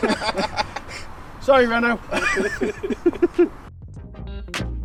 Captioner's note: laughing